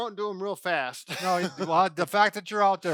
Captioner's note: laughter